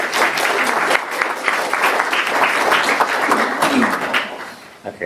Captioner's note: applause